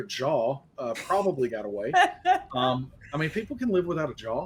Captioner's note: laughing